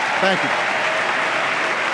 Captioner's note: applause